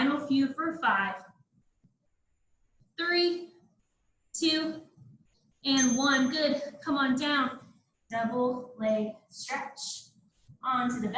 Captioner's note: ding